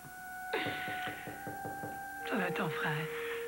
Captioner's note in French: On cogne à la porte